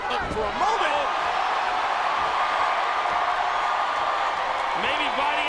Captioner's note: audience cheering